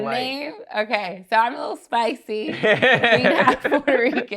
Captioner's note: laughs